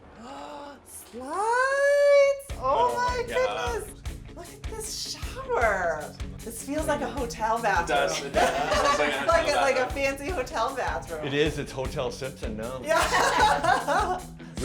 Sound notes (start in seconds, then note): 7.8 laughing; 12.9 laughing